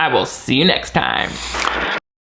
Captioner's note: white noise hissing; fingers snapping